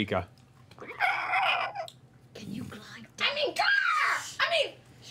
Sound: shrieking noise

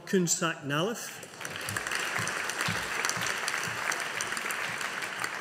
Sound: audience applauding

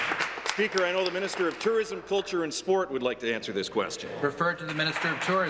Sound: applause

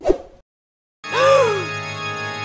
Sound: gasp

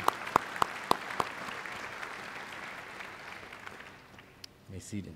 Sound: applause

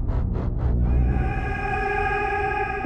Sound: ghostly voice

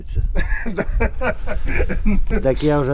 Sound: laughing

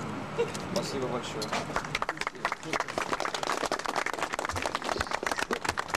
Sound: applause

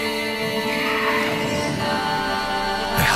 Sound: monsters growl

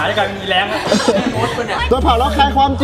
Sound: laughs

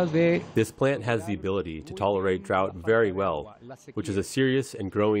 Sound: through translator

